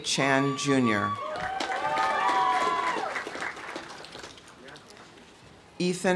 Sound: audience cheering; audience applauding

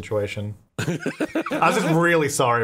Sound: laughing

